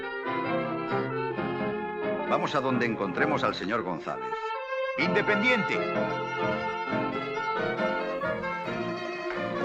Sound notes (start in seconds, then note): 5.1 in spanish; 8.3 in spanish